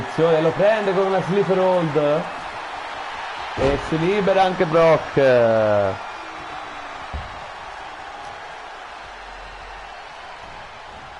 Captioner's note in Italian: Applauso